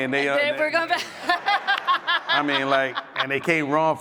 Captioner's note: audience laughs